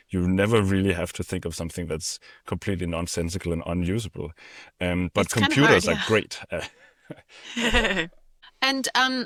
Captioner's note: laughter